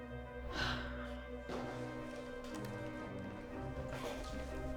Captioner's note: Claire sighs